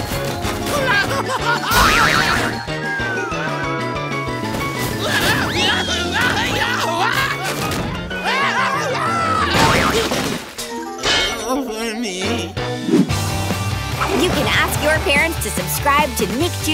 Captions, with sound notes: [screaming] [screaming] [groaning] You can ask your parents to subscribe to Nick Jr's